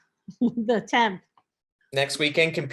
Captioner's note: chuckles